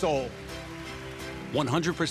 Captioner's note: applauds